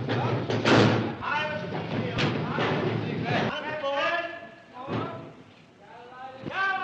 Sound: shouting

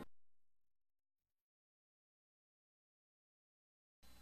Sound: silence

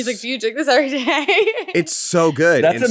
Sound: laughs

